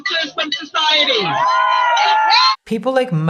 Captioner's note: crowd cheering